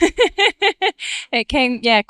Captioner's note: laughing